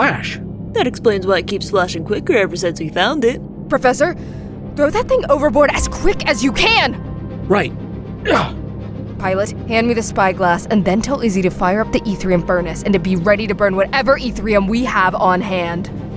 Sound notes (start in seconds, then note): 8.2 grunt as he tosses the disc